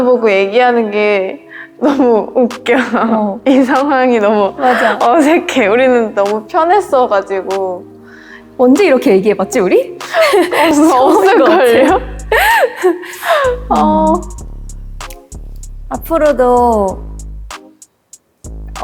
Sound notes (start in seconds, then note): 12.3 laughter from awkwardness